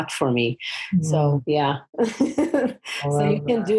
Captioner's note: laughs